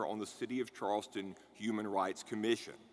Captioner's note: none